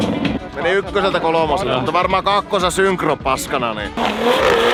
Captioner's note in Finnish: moottorin pärinää